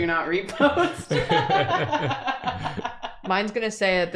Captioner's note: laughter